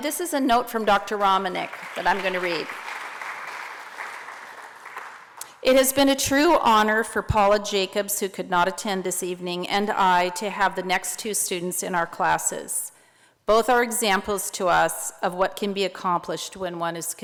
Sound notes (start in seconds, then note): 2.9 applause